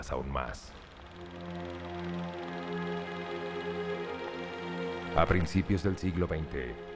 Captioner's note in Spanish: sonido proyector de película